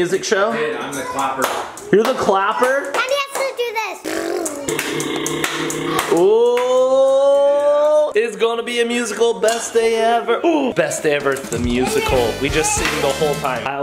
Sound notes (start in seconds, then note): 1.3 hands clapping; 4.0 blowing raspberries; 4.2 blowing raspberries and clapping; 10.5 gasps